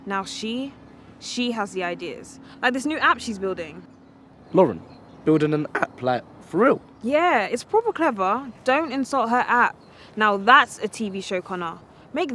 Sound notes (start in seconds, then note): none